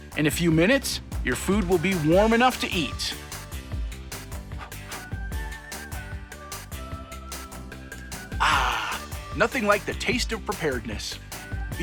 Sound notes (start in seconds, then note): 4.6 blows